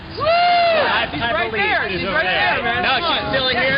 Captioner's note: voiceover